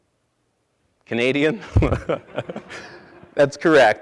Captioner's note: laughing; audience laughing